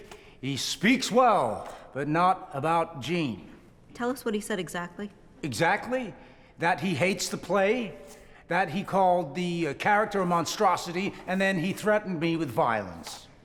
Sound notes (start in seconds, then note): none